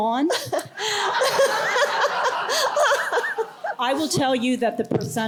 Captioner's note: laughter